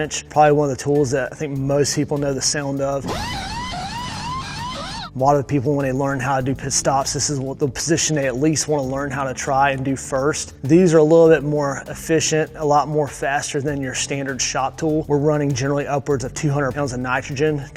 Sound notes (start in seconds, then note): 3.0 tools whirring